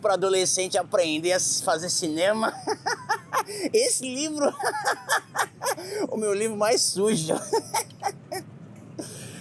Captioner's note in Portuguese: risada